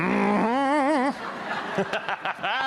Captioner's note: audience laughter; laughs